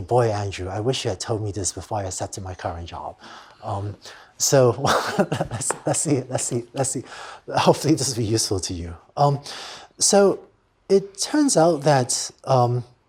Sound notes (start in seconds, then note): 4.8 laughter